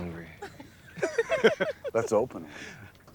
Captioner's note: all laughing